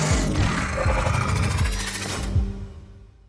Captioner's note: clunking, whirring; low growl